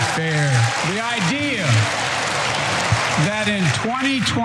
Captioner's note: applause